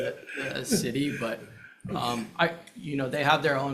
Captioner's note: everyone chuckles